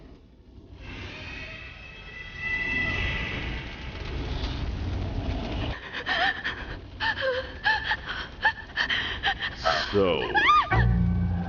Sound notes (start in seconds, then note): 5.7 RvW trembling and gasping in fear